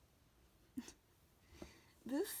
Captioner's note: laughs